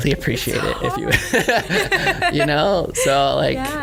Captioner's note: laughter